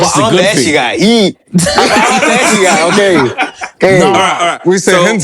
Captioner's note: laughter